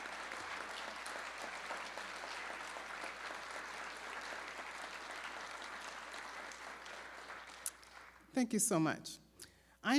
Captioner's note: applause